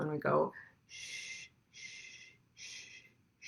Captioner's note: shushes